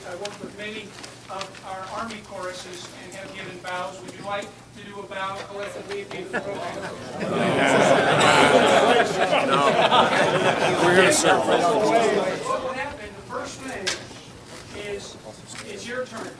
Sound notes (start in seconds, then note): 8.5 crowd chuckling; 8.5 crowd dissenting